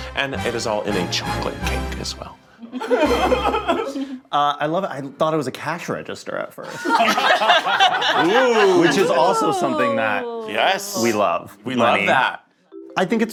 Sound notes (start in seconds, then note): 2.7 laughing; 6.6 all laughing